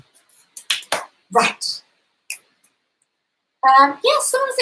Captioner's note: finger snaps